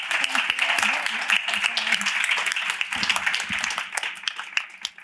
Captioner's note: applause